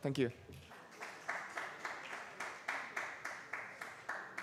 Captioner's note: applause